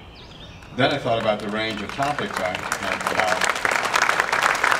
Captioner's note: clapping